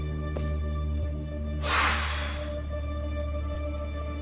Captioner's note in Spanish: Soplido